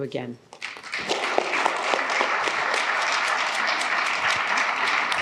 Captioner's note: applause